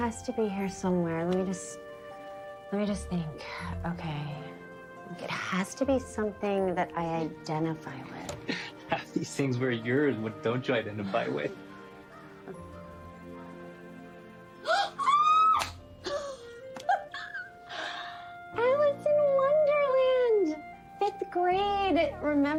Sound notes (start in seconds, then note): 13.8 gasps; 16.7 Tipper chchuckles